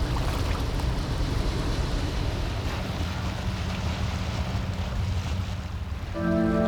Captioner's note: water lapping